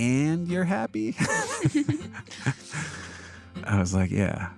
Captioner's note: laughs